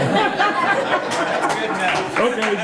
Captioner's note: all laughing